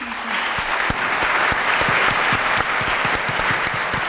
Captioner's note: applause